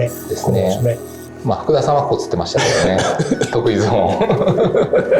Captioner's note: laughs